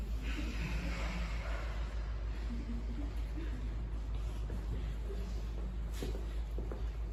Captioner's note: inhale; exhale